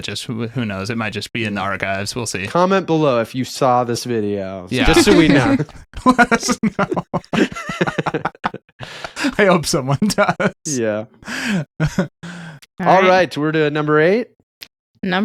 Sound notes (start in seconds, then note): 6.0 laughing